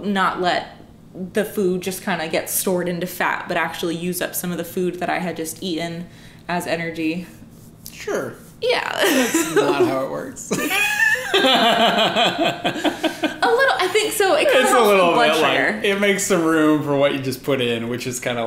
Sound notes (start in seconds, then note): 10.5 laughter